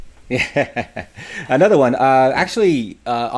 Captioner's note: laughs